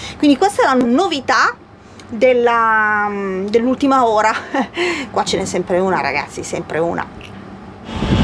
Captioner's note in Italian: risate